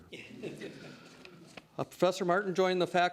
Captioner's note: laughter